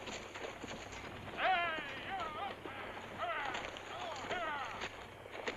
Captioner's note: stagecoach driver shouts